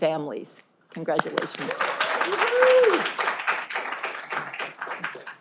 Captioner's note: audience applauding